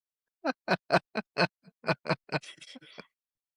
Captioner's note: both Laughing